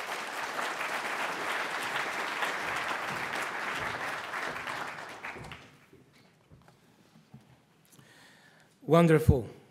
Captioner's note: audience applauds